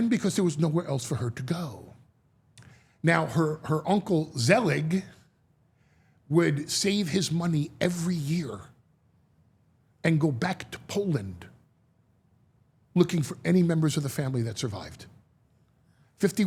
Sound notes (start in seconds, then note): none